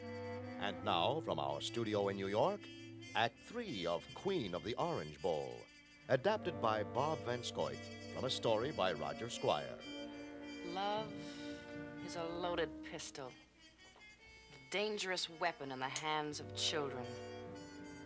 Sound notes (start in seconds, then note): 10.6 Anne on recording